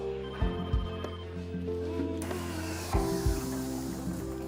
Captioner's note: phone ringing